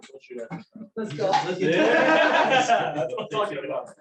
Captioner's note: laughter